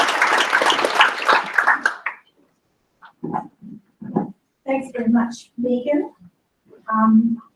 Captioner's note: applause